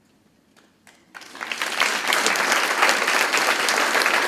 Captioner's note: crowd claps